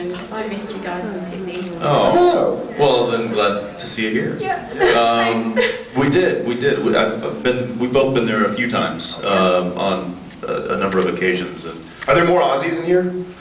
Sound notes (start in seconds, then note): 4.4 laughing